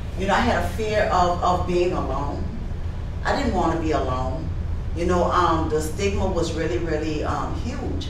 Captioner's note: none